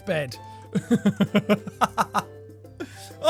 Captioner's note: laugh